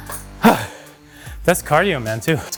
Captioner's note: sighs